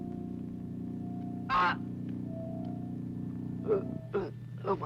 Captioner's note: groaning